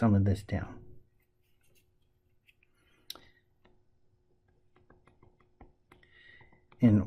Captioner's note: tapping Sounds